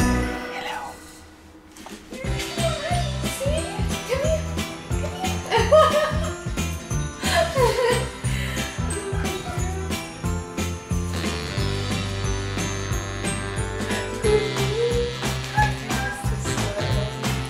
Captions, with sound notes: Hello. [Baby talk] Come here, come here. [Laughter] Good girl, come.